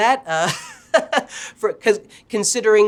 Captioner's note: chuckles